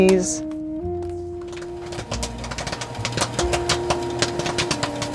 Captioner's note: popcorn popping; slow jazz music